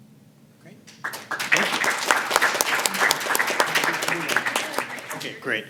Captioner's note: applause